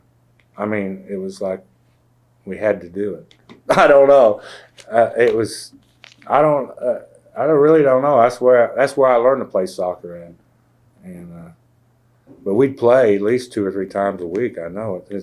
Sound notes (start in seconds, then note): 3.6 laughs